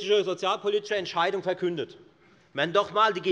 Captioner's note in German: none